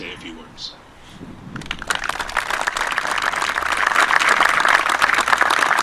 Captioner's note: audience applauding